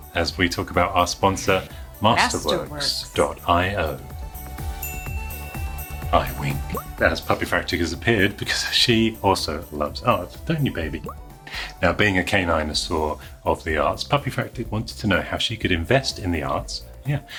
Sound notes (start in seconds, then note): 4.8 bell chiming